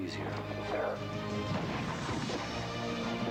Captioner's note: gunshots